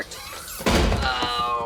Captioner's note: crash